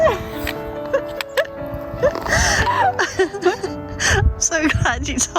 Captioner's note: laughter